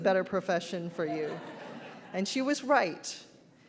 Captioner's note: audience laughs